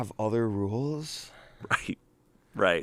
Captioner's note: chuckles